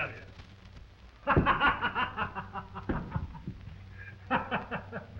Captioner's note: Tom laughing